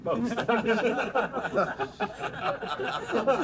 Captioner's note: crowd laughs